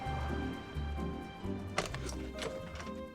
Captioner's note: door opens